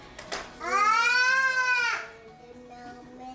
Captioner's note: baby screaming; babies mumbling